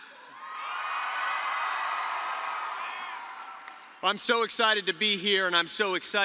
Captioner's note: applause